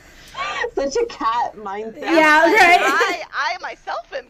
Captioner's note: laughter